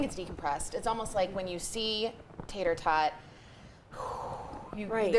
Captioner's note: blows air